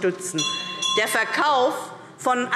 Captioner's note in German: Glockenzeichen